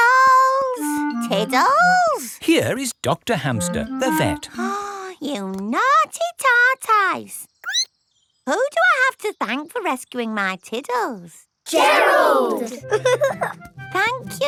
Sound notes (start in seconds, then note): 5.0 gasps; 7.6 squeaks; 12.7 giggling